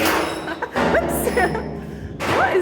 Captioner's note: laughing